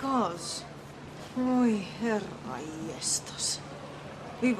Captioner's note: speaks Finnish